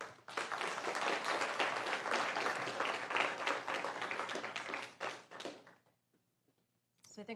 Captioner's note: applause